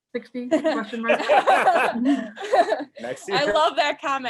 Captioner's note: laughter